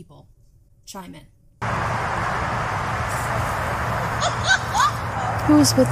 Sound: loud spirit laugh

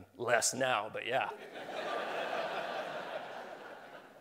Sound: laughing

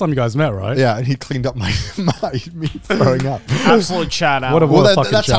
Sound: laughs

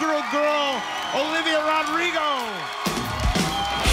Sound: audience cheering

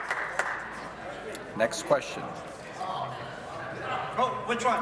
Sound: applause

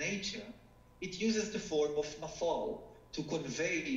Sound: speaking foreign language

